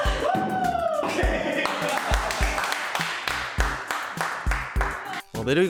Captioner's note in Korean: 환호소리; 박수소리